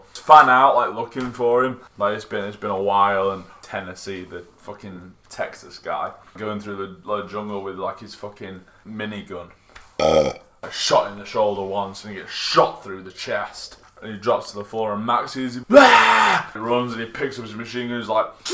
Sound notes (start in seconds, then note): 10.0 burps